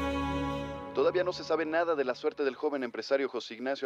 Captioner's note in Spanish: Voz en la T.V